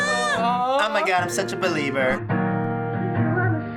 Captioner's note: girly voice